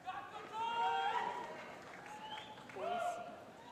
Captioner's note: shouting